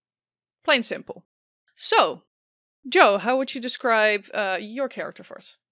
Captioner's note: none